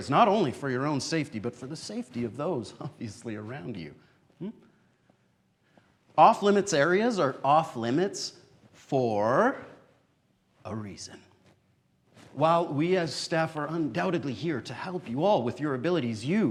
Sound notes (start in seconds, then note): none